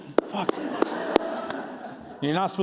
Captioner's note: clapping